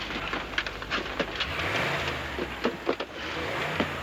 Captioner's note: engine revving